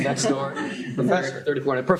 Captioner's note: laughter